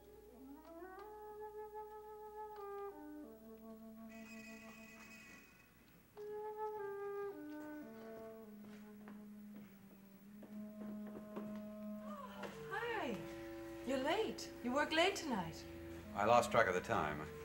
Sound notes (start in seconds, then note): 0.1 scene change music; 7.0 footsteps